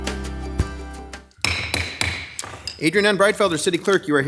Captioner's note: gavel banging